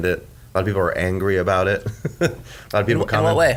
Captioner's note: chuckles